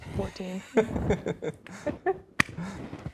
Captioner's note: laughing; claps hands